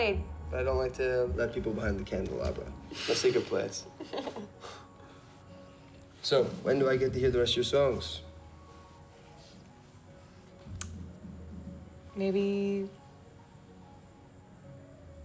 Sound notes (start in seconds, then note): 3.8 laughs